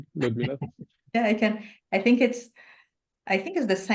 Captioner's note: chuckles